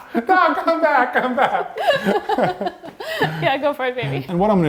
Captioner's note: laughing